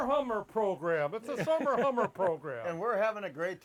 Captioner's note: laughs